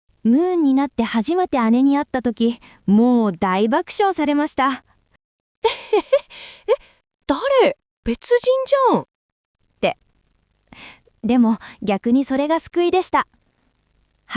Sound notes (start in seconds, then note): 5.6 laughs